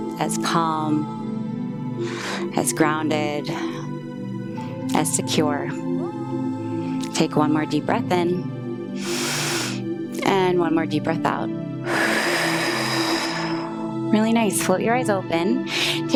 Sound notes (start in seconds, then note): 2.0 inhales; 8.9 inhales; 11.8 exhales